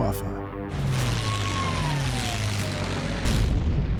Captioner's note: high siren